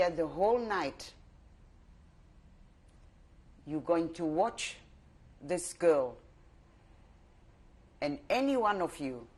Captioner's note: pauses for 3 seconds